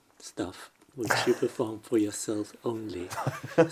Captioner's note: laughs